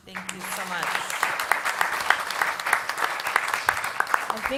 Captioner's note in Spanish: Aplausos